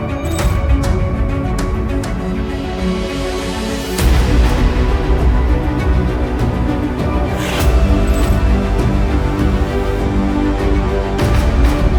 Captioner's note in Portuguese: Ruído de interferência e música crescente